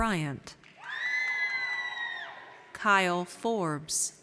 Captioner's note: audience cheers